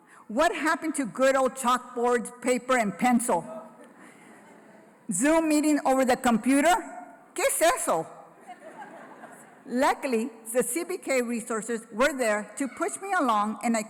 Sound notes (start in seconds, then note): 6.5 foreign language; 8.3 laughter